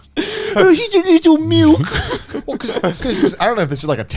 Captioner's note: giggles